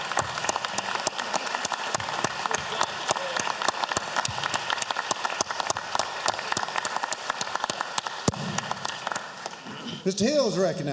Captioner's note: applause